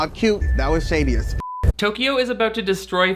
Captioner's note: beep